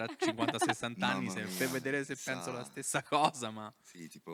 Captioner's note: laughing